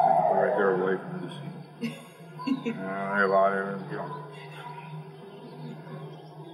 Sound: laugh

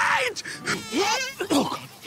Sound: buzzing

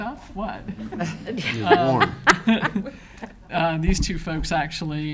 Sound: laughs

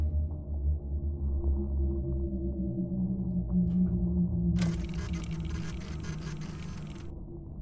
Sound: machine whirring

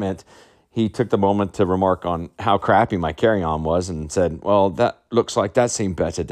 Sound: imitating English accent

